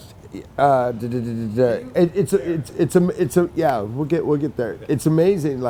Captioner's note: stammers